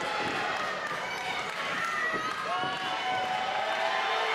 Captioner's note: crowd cheers